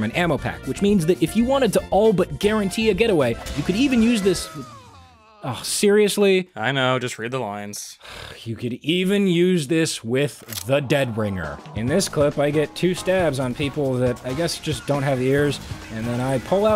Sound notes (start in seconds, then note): 8.0 sighs; 10.0 audible disgust